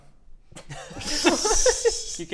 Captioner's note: bemused laughter